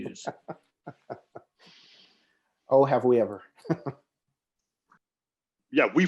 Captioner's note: laughs